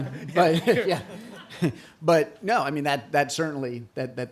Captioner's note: laughter